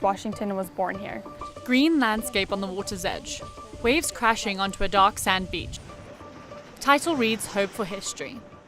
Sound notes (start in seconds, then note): 5.9 soft upbeat music; 5.9 waves crashing